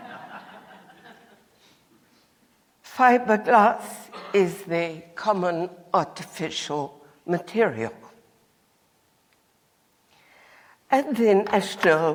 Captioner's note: laughter